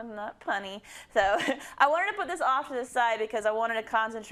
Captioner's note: laugh